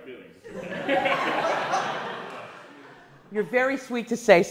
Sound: class laughs

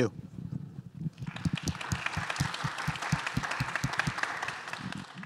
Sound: audience applauding

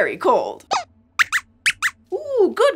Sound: squeaks squeaks

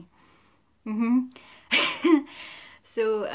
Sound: laughs

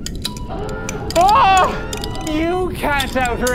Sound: carbon fiber cracking gets louder and more frequent; alarm sounds

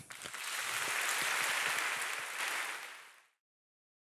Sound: audience applauding

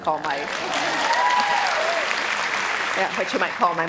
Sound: audience applause and cheers

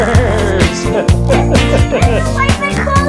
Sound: laughs

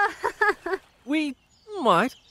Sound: nervous laugh

